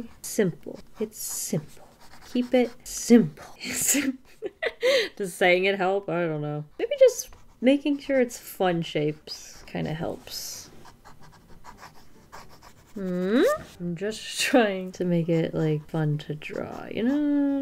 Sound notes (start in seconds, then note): 3.3 laughs